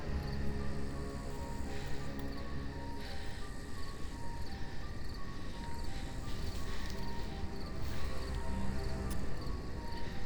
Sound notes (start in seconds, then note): 2.9 Steph breathing heavily; 7.2 soft tense music